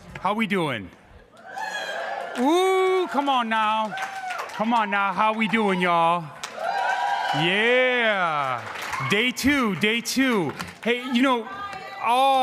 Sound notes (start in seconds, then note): 1.6 crowd cheering; 6.6 crowd cheering